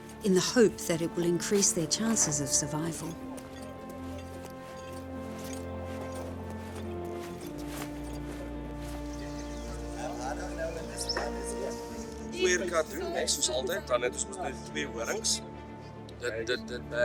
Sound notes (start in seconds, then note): 4.0 gentle music; 12.4 speaks in a foreign language